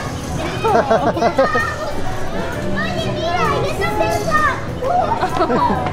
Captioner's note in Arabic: يضحك; أطفال يلعبون